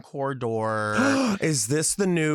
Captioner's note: gasps